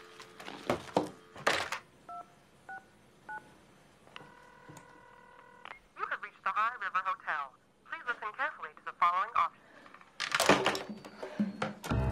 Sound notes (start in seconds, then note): 2.1 phone beeping; 4.2 phone rings